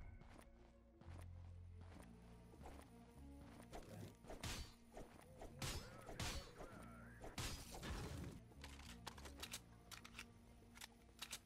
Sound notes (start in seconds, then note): 8.5 gun reloads